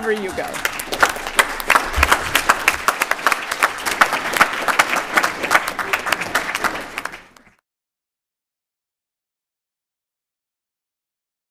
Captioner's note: applause